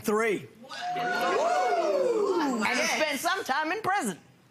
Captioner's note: audience enthusiastically muttering